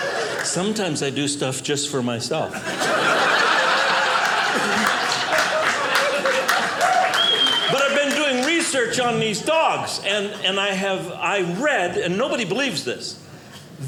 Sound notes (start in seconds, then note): 2.8 audience applauding